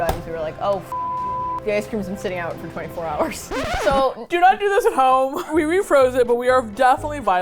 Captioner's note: record scratch